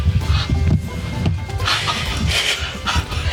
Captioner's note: gasping